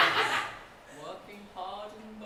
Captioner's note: audience laughter